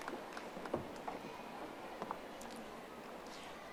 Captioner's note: audience applauding